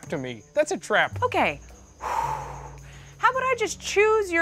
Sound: exhales sharply

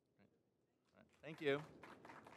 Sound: applause

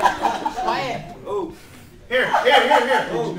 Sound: laughter

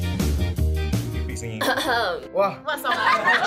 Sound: clears throat

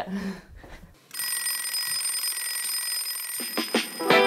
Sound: alarm ringing; upbeat music

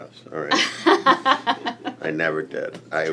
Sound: laughs

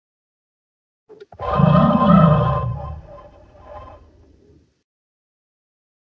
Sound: sound of bird

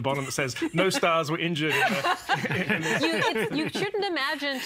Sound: laughing

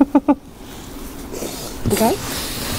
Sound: laughing

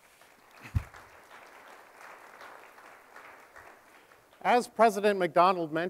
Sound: audience applauding

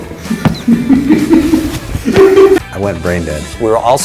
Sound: laughing

